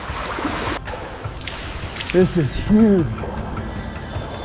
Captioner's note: water splashing